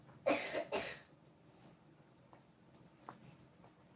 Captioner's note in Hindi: गला साफ़ करने की आवाज़